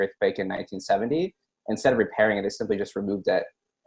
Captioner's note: chuckles